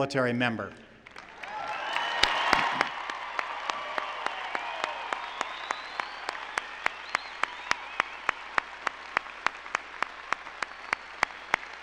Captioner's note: cheering and applause